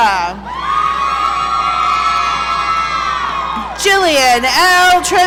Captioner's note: audience cheering